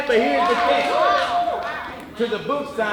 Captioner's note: audience applauding